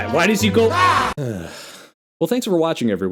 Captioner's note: defeated Sigh